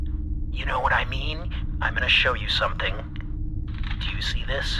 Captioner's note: paper rustling